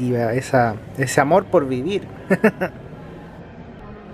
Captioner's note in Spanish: risas